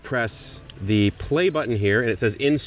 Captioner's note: appliance beeps